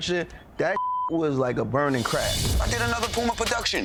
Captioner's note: beep